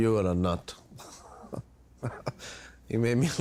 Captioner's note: chuckles